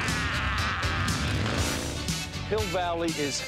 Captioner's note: laughs; engine revs